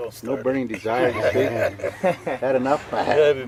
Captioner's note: laughing